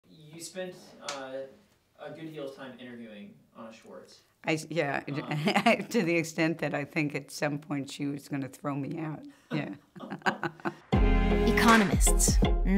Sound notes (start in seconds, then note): 5.1 chuckles; 9.5 laughs; 10.8 theme music